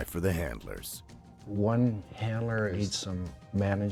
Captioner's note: voiceover